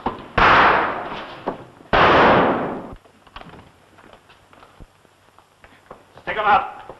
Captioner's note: gunshots